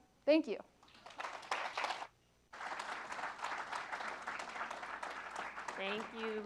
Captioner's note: applause